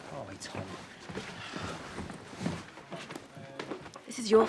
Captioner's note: sighs